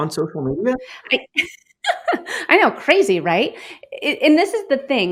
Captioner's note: laughs